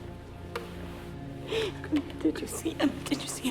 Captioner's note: sobs